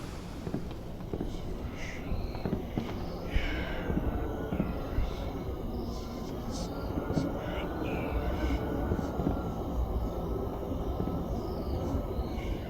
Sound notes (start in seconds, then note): 1.0 A haunting whisper and the sounds of distant war